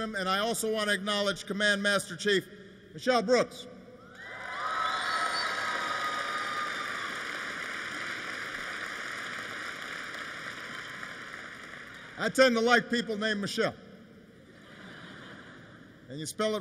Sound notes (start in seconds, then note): 4.8 applause; 14.4 laughter